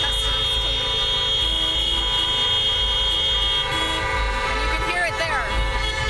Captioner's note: horns honking